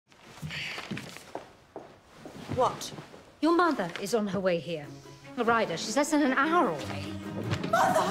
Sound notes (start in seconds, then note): 0.7 Marial sighs